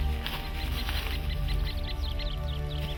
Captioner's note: shuffling